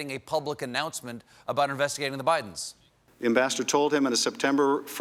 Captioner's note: none